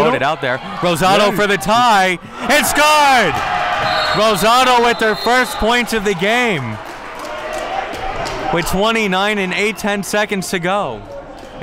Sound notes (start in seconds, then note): 3.3 crowd cheering; 3.8 referee blows whistle